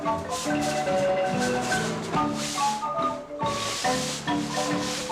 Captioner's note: leaves rustling